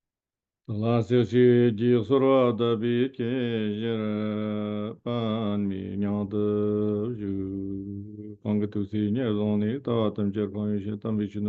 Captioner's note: is chanting prayers in Tibetan